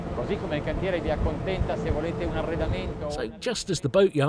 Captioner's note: speaks Italian